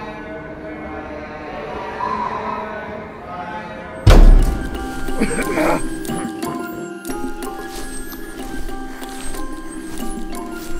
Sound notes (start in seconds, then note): 0.2 wind blowing; 4.0 dramatic hit; 5.1 clearing throat; 7.8 mysterious music